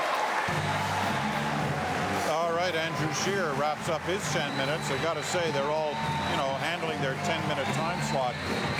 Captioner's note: cheering and Applause